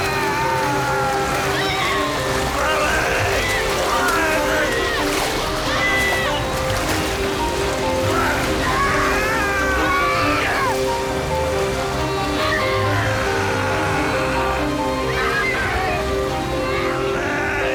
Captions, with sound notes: (yells) Pap! - Help me! - Pap! (both screaming) (groaning) (screams)